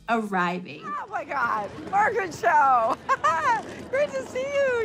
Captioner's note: laughs